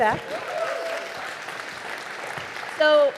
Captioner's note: audience applauding